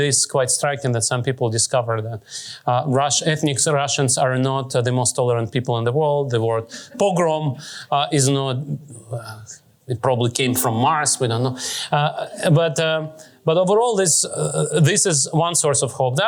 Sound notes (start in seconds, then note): none